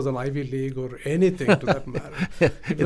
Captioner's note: laughs